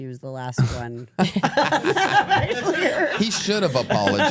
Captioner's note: everyone laughs